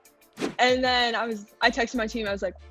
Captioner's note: scene whooshing